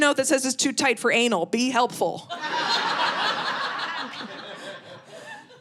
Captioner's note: audience laughing